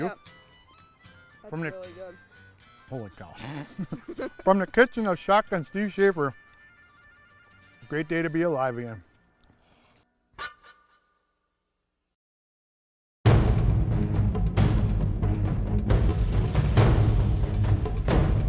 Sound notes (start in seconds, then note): 3.4 laughter; 13.2 dramatic music